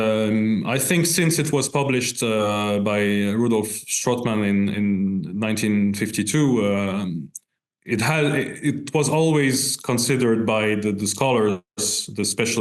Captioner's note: in Arabic